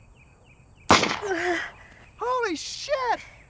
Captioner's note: gunshot